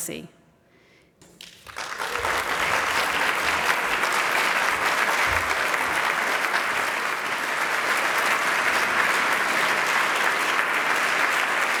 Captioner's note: applause